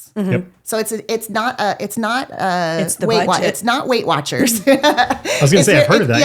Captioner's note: laughs